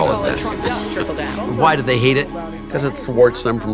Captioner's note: laughs